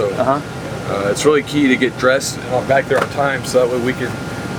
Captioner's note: none